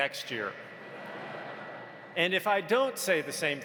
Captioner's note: audience laughs